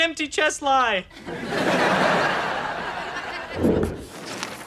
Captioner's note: audience laughter